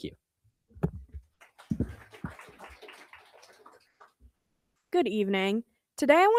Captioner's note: crowd applauding